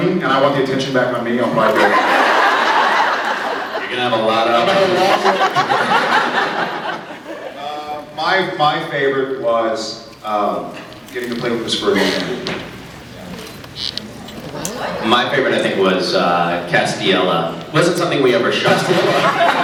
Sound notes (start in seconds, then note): 1.6 laughs; 18.8 laughs